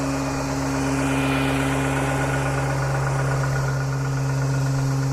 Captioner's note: motor whirring faster